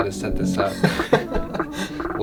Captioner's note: laughing